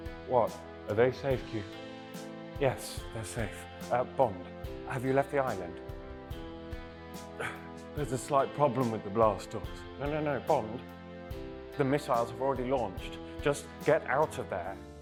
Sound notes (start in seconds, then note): 5.6 laid back music; 7.4 grunts